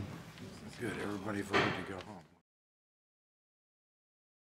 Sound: gavel

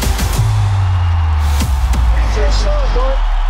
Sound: crowd cheering

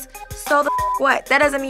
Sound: beep

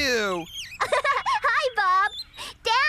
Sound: giggling

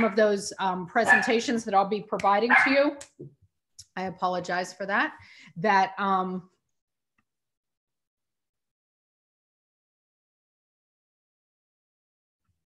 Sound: dog barking in background

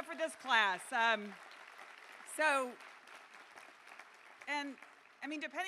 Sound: applause

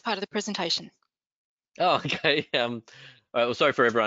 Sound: chuckles

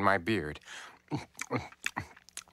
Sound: chomping

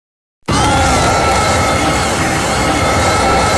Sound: screams

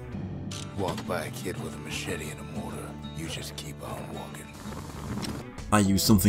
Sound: in-game audio

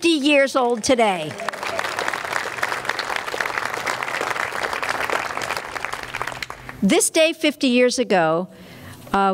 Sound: clapping

